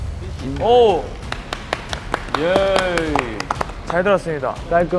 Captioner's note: thunderous applause